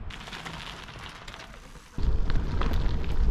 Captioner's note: bike wheels on gravel